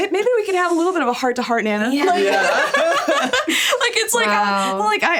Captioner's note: all laughing